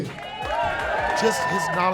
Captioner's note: audience cheers